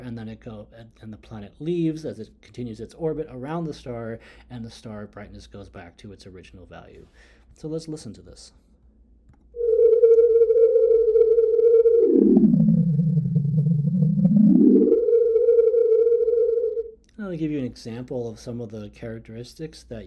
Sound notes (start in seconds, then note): 9.0 star sound